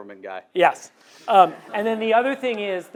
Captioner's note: audience laughs